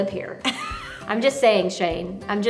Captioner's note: laughs